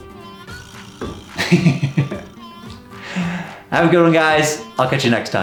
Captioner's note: laughing